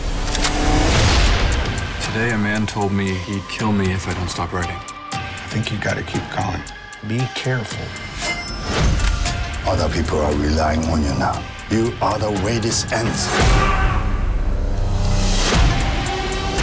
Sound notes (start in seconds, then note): 0.2 gunshot; 13.0 yells